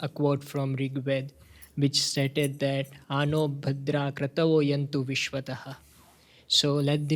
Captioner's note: speaking hindi